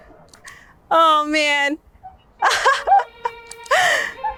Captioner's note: laughs